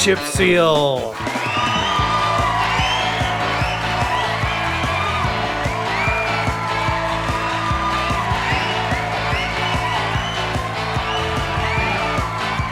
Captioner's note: crowd cheering